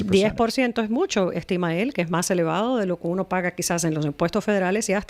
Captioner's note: Hablando ingl\s